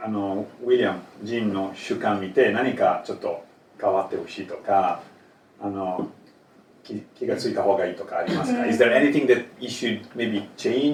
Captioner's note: Japanese language 00:12:44